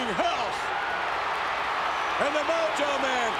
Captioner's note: audience cheering